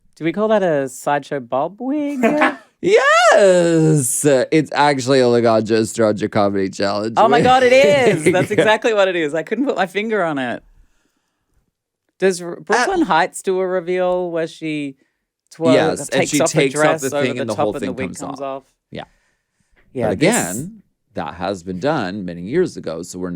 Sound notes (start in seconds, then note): 2.1 laughs; 7.2 Alaska laughs